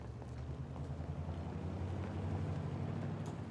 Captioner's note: car departing